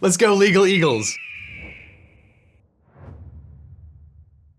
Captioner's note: eagle cry